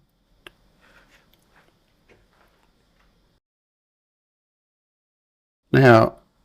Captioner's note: silence